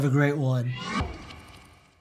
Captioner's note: electronic whooshing